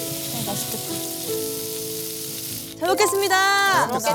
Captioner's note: sizzle